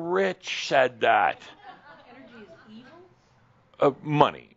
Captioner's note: a few chuckles